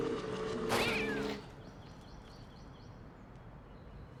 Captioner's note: cat screeches